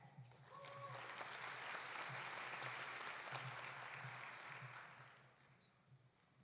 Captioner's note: audience applauding; audience cheering